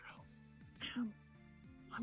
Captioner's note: ahem